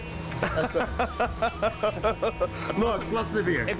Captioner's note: laughter